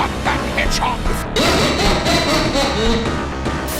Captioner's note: laughter